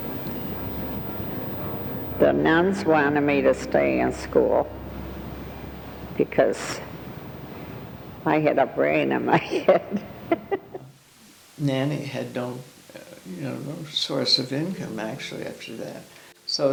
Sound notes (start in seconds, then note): 9.3 laughing; 16.5 gentle piano music